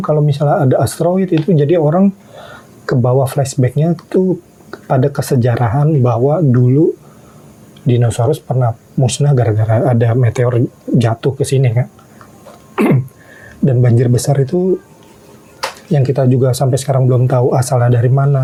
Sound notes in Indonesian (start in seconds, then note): 12.7 berdehem